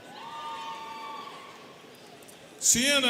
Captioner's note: students cheering